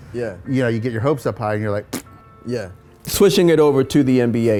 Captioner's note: fart noise